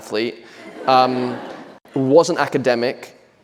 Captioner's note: audience laughing